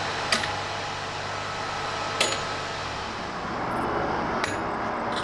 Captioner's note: hammer clacking